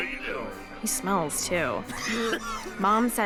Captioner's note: coughing